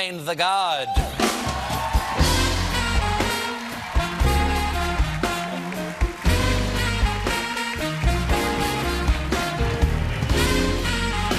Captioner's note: applause